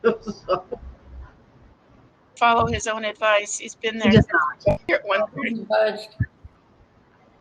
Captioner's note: laughter